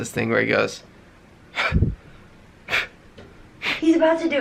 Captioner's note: huffing air